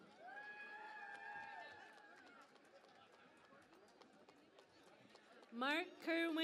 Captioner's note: cheering and Applause